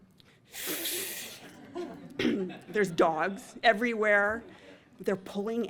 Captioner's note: inhales